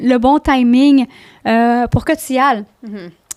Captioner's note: in french